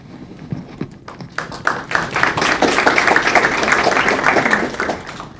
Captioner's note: crowd clapping